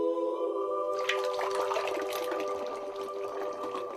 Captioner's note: splashing